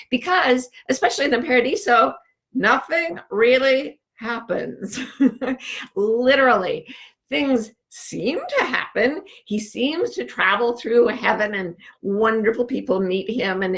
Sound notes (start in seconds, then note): 4.9 chuckles